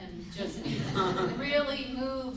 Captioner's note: group laughs